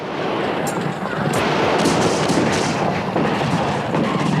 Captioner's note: guns bang